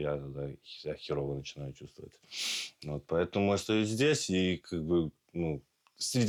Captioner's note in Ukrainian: сопіння